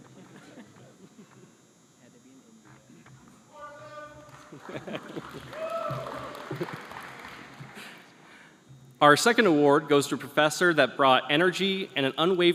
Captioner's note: applause